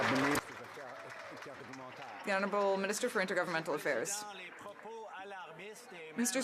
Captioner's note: some Applause